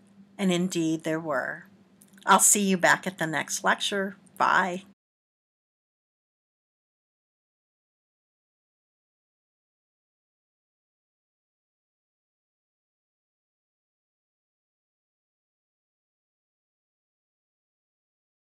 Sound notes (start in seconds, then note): 5.6 silence